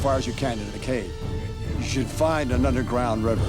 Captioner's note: speaks tribal language